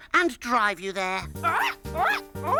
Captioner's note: upbeat music; Tula imitates Hollowbird